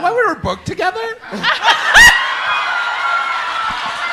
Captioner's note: audience laughs